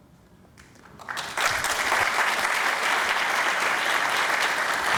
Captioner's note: applause